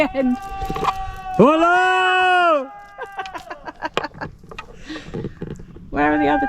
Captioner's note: yells; laughter